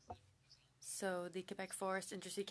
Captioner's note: speaking French